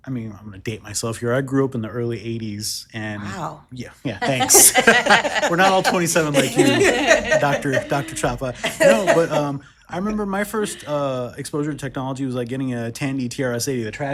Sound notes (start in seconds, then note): 4.1 group laughs